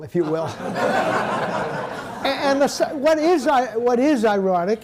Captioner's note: audience laughing